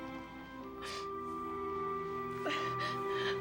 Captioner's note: sobbing